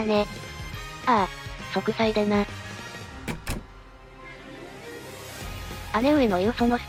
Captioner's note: slam